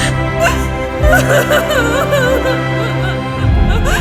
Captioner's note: sobbing loudly